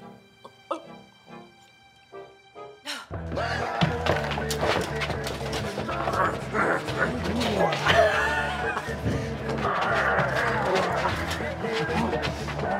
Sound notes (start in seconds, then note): 0.3 gurgles; 2.6 sigh; 3.9 shirtless man snorts; 7.8 Jimmy laughs; 9.3 shirtless man growls